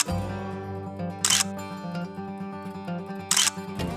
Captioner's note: camera clicking